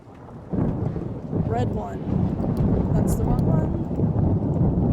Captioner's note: thunder; thunder Continues